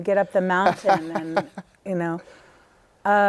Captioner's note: laughter